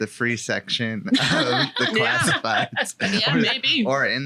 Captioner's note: laughing